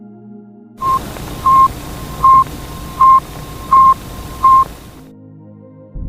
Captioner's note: Recording: Sputnik 1 radio transmission, received 1957